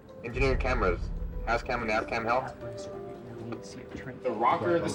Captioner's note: radio call mumbling